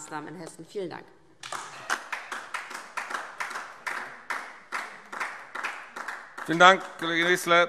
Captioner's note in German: Beifall DIE LINKE und vereinzelt SPD